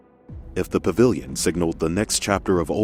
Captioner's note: voiceover